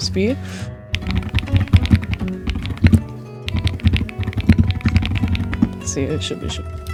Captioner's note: typing asmr